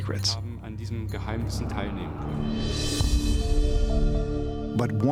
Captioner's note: non-english speech